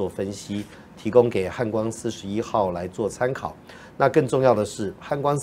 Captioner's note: speaking in foreign language